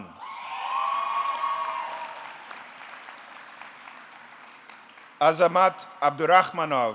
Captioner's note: audience cheering; audience clapping